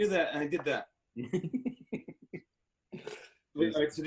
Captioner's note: laughing